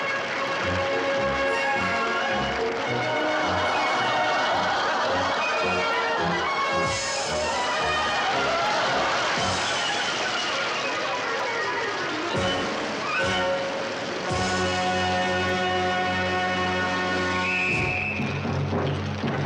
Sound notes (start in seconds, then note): 0.2 audience applauds; 3.9 audience laughs; 7.8 audience applauds; 17.3 whistle shrills